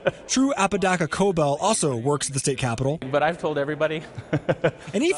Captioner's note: laughs